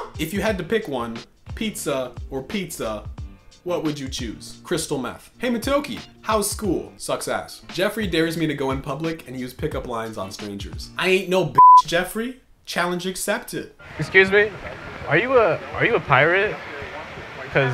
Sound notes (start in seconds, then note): 11.5 beep